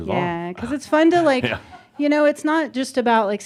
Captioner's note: a couple of chuckles